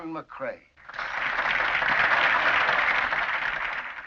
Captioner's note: crowd claps